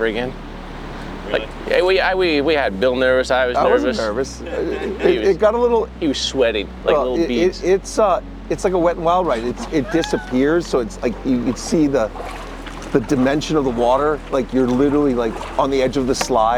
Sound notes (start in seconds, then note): 3.6 crew member laughing; 9.1 laughing